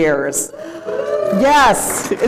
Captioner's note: cheering